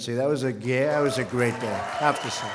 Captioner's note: applause